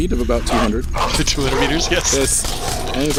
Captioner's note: laughing